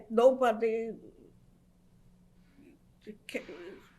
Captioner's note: pauses for 6 seconds